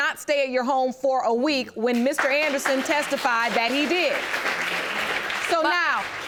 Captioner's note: audience applauding